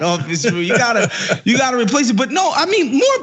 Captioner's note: laugh